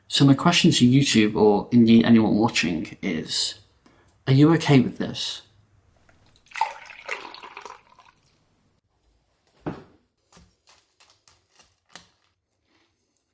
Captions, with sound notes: So my question to YouTube or indeed anyone watching is, are you okay with this? (milk splashing)